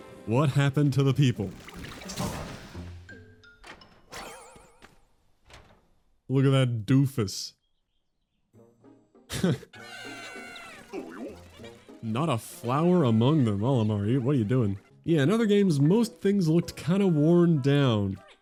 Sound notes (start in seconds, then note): 9.3 laughs